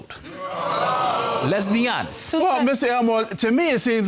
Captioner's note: audience groans